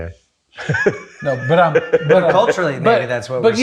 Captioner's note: laughs